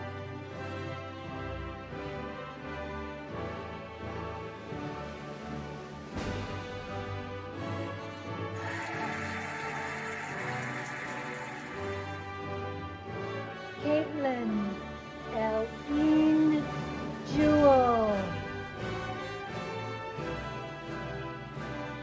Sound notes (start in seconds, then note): 0.1 cheerful music; 8.5 cheering and applauding; 19.1 cheerful music